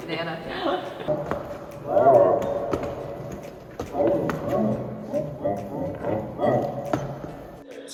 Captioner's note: dinosaur vocalizations